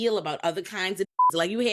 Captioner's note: beep